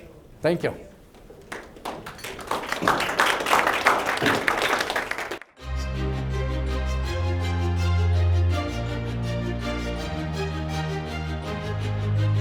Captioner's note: applause, Music